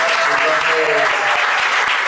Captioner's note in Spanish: aplausos